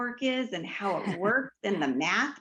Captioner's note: laughs